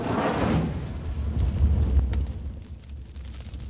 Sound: fire igniting

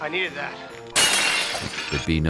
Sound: crash

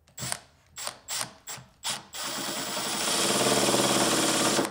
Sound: drilling screw

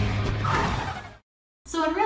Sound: car tires squealing

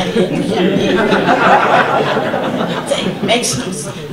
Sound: audience laughter

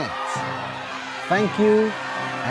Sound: crowd cheering and clapping

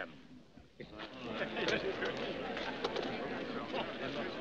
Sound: chattering

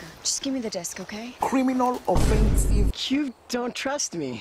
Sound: boom

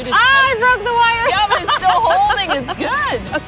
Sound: laughs

